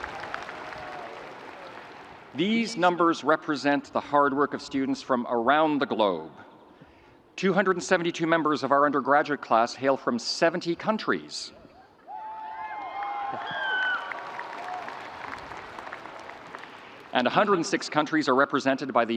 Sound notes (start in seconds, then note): 12.1 audience cheering